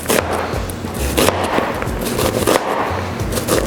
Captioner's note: chopping